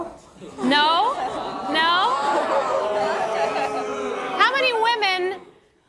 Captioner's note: laughter